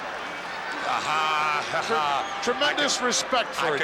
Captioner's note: Jesse laughs